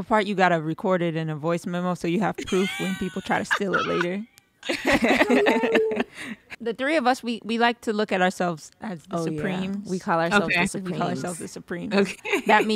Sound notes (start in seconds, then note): 4.6 laughing